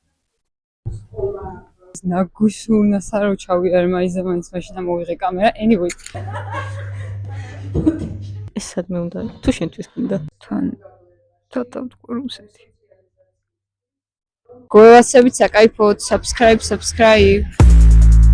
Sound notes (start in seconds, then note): 6.1 laugh